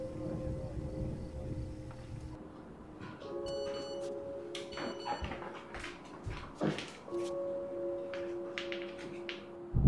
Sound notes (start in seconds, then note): 4.5 beeping